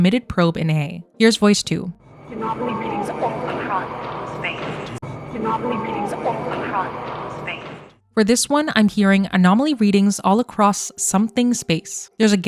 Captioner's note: voice 2 playing